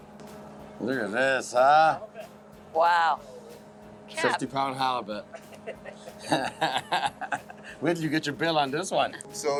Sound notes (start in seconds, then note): 5.2 laughs